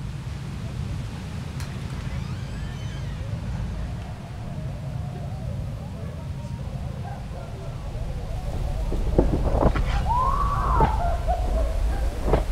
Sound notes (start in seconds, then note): 1.6 door squeaks; 5.7 wind whistling; 10.0 woman screaming